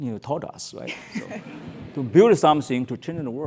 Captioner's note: laugh